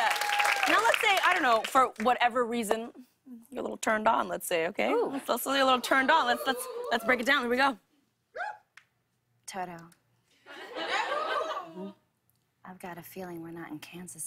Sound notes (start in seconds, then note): 10.5 laughter and cheers